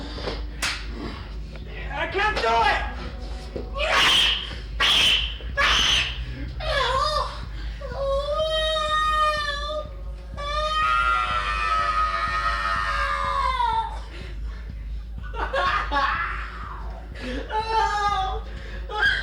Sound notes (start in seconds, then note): 8.4 shrieking